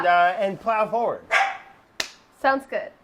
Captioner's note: dog barking